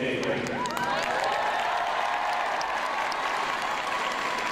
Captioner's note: crowd cheering